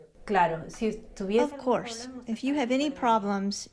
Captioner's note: through translator